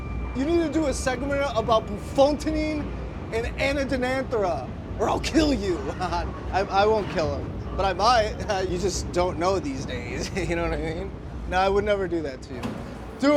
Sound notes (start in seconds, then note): 5.3 laughs